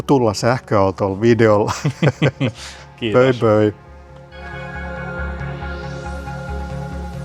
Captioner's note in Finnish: naurua